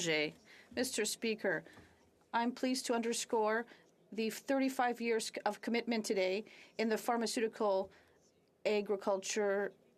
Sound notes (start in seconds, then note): 6.2 speaking French